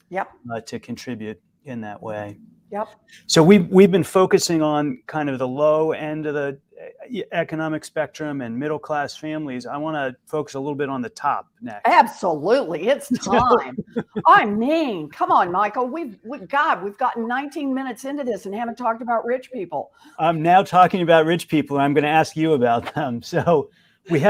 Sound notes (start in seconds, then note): 13.1 laughter; 23.4 chuckle